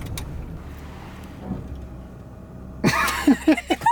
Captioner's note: car grinds on the curb